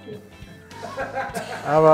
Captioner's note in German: Lachen